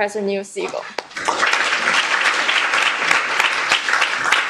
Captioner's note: applause